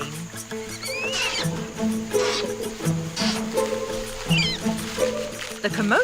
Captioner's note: Yoko squeaking; bright upbeat music